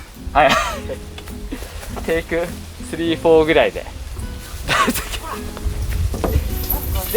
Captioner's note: laughs